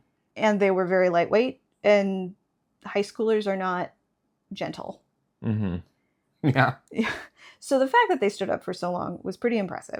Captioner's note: with a laugh